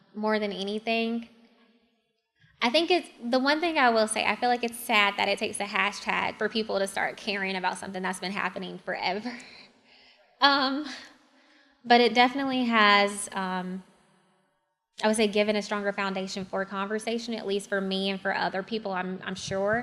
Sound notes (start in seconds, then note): 9.3 laugh